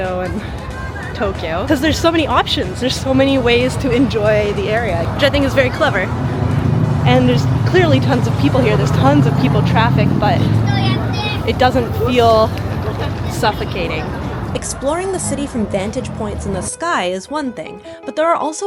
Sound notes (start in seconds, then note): 13.5 people chattering in background; 17.7 bright piano music